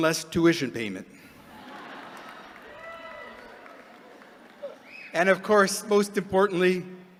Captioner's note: laughter